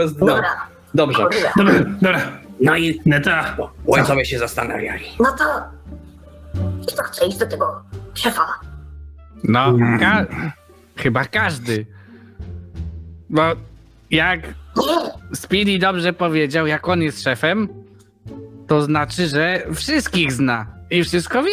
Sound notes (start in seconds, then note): 9.4 more goblin noises